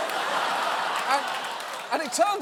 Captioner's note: audience laughing